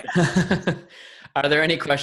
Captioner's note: all laughing